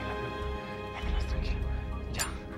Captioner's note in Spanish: Hable entre dientes